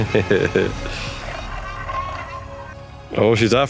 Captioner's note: father laughing